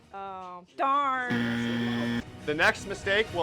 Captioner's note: buzzer